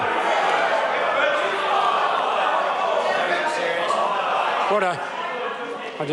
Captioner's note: members shout